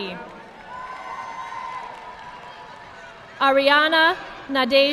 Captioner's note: audience clapping